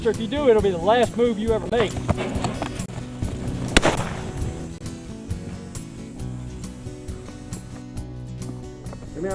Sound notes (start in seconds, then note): 3.6 gun bangs; 5.7 rolling guitar music